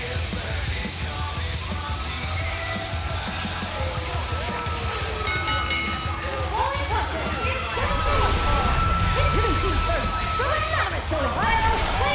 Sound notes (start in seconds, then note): 3.9 bell ringing